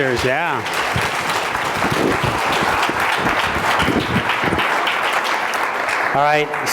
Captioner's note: applause